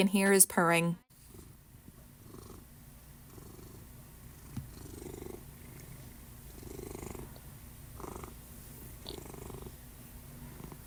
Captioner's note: cat purrs